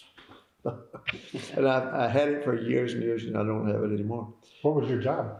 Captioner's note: laughter